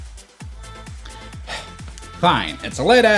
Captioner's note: huff